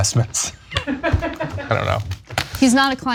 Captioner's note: laugh